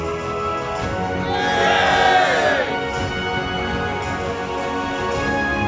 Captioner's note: crowd cheers